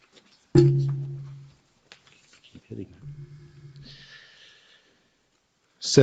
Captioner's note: mic thumps